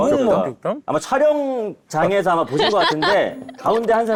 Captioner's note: already laughing